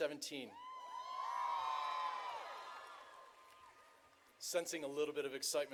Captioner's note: audience cheering